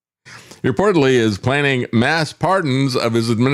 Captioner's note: laughs